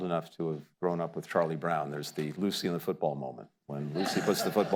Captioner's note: laughter